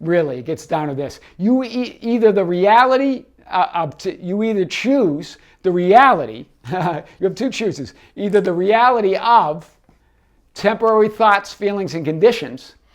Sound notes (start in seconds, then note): 6.6 laughing